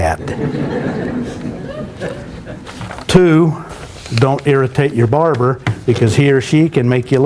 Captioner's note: laughter